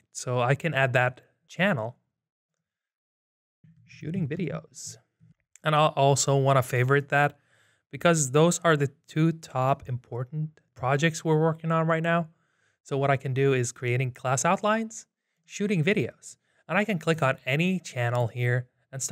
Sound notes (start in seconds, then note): none